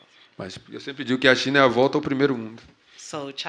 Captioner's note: speaking portuguese